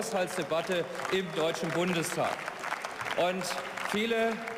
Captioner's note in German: Beifall